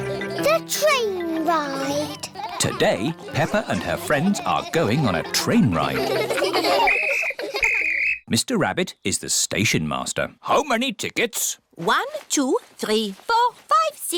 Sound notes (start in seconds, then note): 0.0 laughter; 6.8 blows whistle